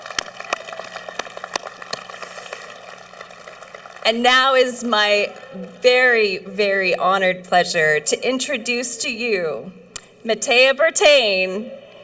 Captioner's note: cheering